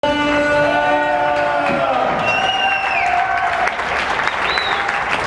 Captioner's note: crowd cheering